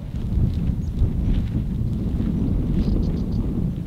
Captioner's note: wind blowing